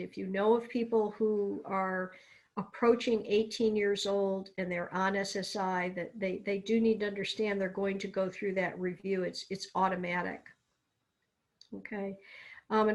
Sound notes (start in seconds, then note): none